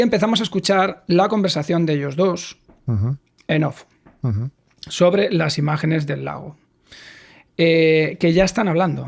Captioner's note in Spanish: Voiceover